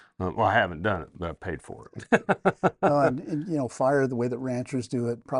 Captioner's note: laughs